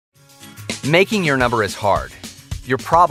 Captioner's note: upbeat music; voiceover